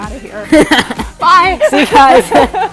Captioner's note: laughing